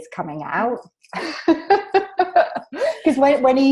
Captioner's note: both laugh